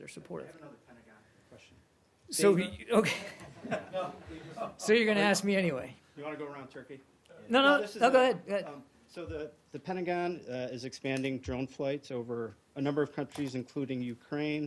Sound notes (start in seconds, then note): 3.0 laugher